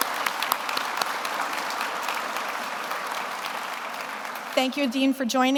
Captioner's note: everyone applauds